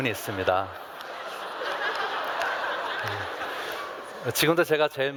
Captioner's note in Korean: 웃음